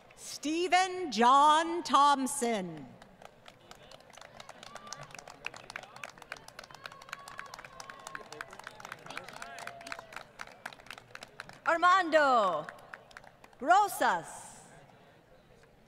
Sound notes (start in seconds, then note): 2.9 applause